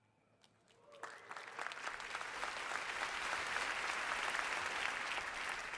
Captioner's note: audience applauding